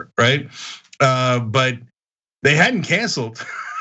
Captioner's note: laugh